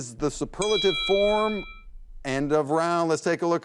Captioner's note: bell dings